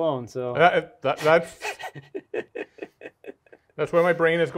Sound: laughing

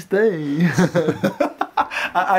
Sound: laughing

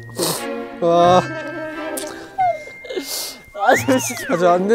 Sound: is crying

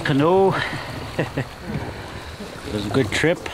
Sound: chuckle

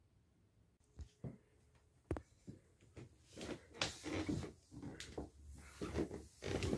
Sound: feet thudding and floor creaking

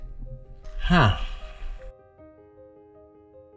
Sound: sighs

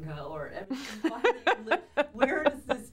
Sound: Laura laughs

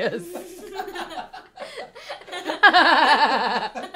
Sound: laughs

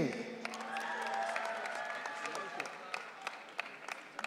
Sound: audience cheering

